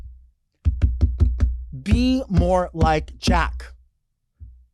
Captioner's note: hand thudding